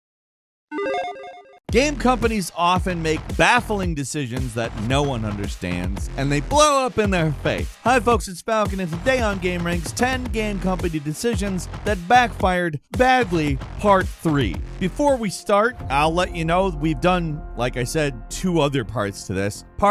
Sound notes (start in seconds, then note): 0.7 electronic chiming